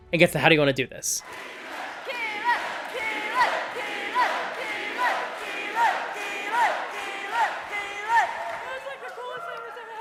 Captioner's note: cheering and chanting “Keyleth”